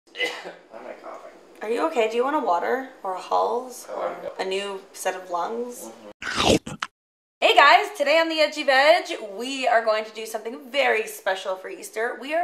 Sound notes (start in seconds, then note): 0.1 coughing; 6.2 biting sound